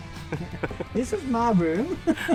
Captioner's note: all laughing